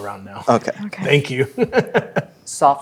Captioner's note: chuckles